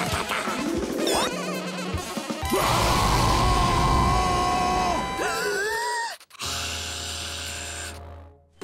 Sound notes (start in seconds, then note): 2.1 roaring